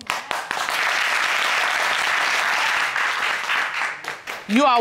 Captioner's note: audience applauding